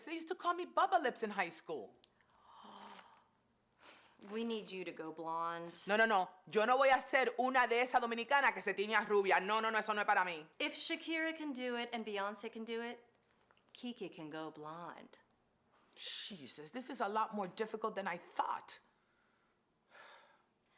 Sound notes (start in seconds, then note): 7.5 speaking Spanish